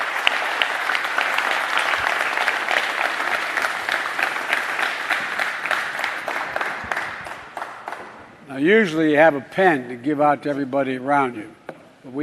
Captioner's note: applause